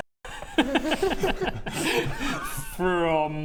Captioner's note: self-destructive laughter